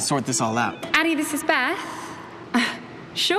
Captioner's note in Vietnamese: tiếng điện thoại